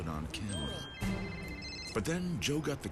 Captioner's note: phones ringing